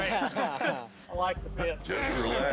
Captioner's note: laughter